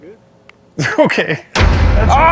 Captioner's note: laughing; dramatic music